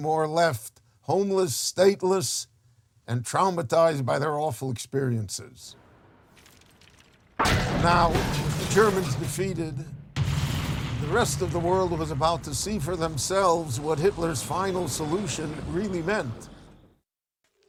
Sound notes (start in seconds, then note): 6.6 metal crashes; 10.4 explosive boom